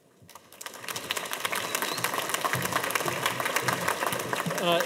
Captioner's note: audience applauding